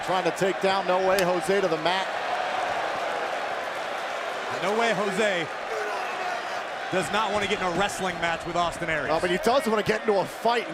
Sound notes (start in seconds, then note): 4.2 crowd cheering